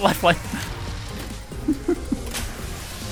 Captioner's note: laughter